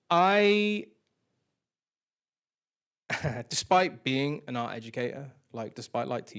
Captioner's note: chuckles